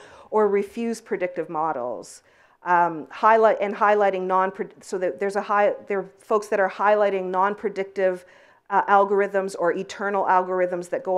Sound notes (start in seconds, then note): 3.8 stutters